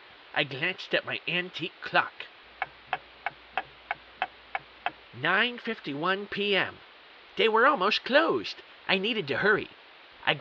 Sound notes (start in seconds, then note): 3.5 clock ticking